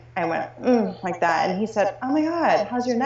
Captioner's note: moaning